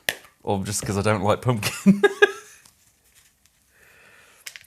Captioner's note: laughs